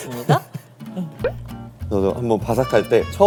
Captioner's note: Munch